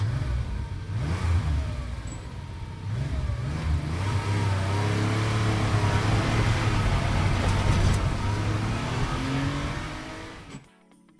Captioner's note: car engine revving and speeding away